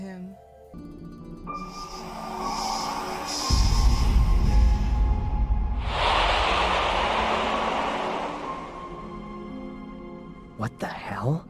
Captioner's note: ghostly whispers